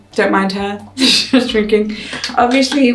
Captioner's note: gulps; laughs